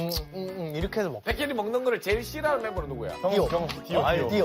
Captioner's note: eating noise